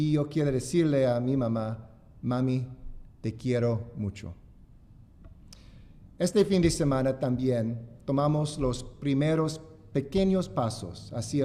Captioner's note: speaking spanish